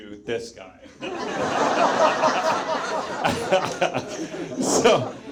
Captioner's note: audience laughs